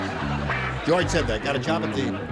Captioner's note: laughter